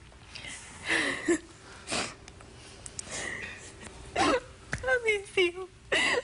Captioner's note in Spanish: sollozos